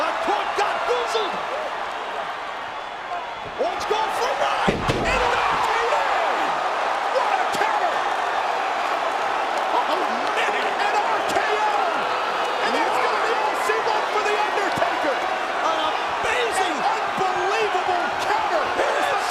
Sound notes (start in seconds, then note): 8.2 crowd cheering